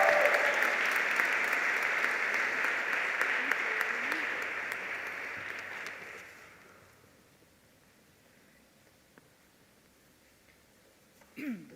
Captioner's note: applause